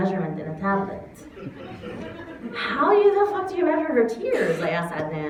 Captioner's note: laughter